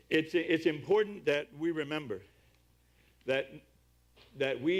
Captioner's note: none